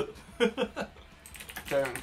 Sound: laughs

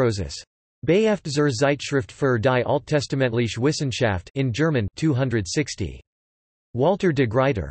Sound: in German

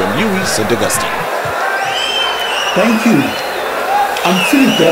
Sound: wild applause and cheering for 22 seconds

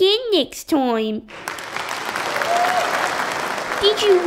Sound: applause

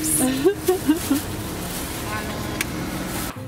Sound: laughing

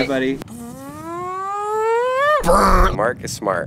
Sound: siren sound made by mouth

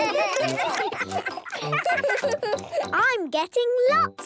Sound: giggling, chewing

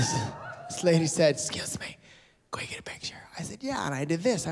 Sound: cheering; whispers

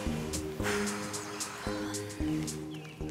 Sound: sighing

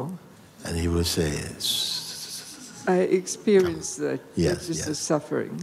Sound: whispering sound

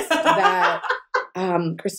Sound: laughter

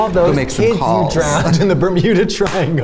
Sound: laughter

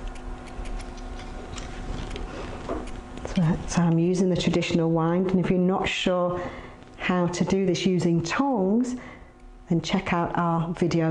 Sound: ASMR sounds

